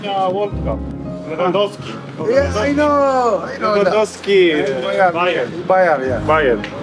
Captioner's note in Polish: rozmowa w j. angielskim